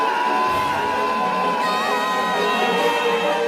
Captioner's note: screams; screaming